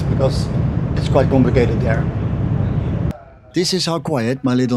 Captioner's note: foreign language